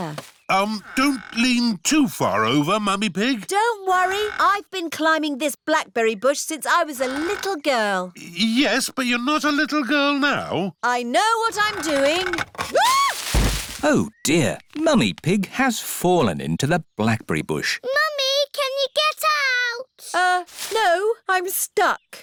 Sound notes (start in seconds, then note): 12.0 thuds; 12.7 screams